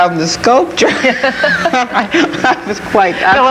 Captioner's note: panelists laughing